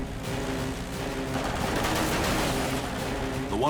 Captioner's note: gunfire